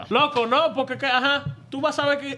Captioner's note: speaking In Foreign Language